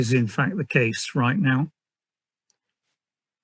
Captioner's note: none